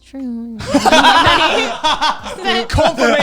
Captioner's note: all laughing